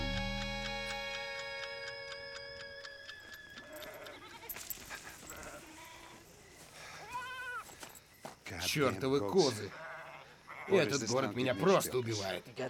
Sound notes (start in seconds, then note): 0.0 clock ticking; 3.6 goats bleating; 6.3 sighs